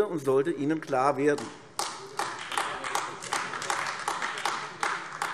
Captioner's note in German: Beifall AfD